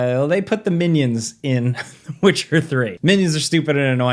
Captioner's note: laughs